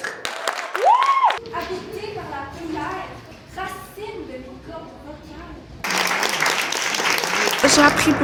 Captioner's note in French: Applaudissements; Applaudissements